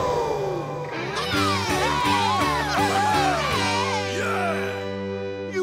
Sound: cheering

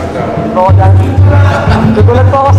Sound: laughs

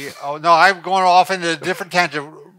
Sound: laughing

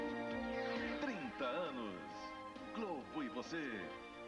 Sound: male announcer speaking Portuguese

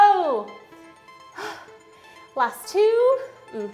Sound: exhaling

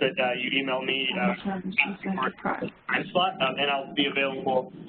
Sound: listener murmurs

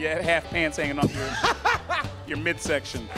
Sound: laughing

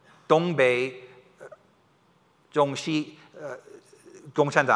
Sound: foreign language

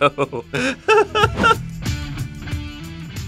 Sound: laughs; rock music plays

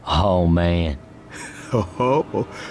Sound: laughs

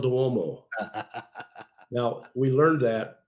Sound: laughs

